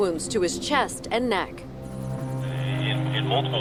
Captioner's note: helicopter whirs